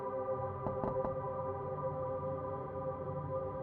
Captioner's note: knock, knock, knock